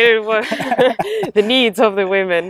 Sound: both laugh

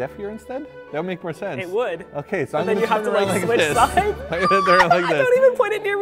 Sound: screams

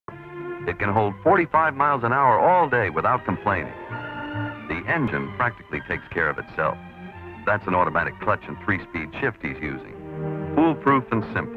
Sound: sound of commercial

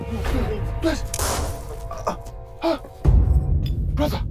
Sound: gunshot fired

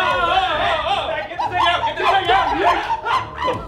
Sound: monkey screaming

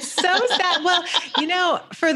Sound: laughs

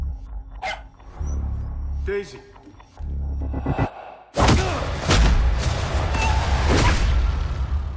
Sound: bark

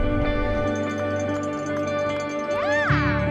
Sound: bell ringing

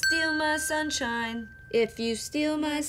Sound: bell dinging

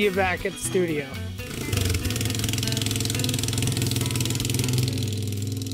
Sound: four wheeler revving

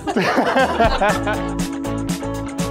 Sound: all laughing; bright upbeat music

